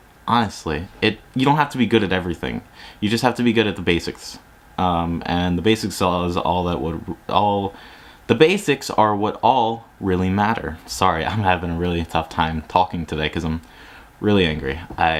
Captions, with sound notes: Honestly it you don't have to be good at everything. You just have to be good at the basics And the basics is all that would all... (*sigh of exasperation*) the basics are what all really matter. Sorry I'm having really a tough time talking today cause I'm really angry I